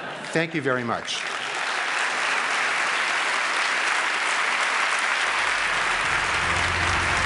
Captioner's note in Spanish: Aplausos